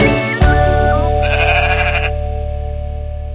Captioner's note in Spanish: Sonido de oveja